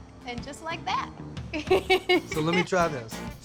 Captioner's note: giggling